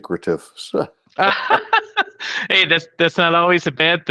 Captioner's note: laughs